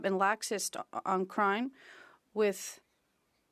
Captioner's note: speaking French